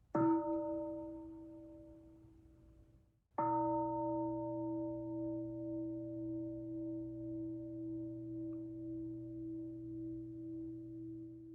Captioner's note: bell sounds twice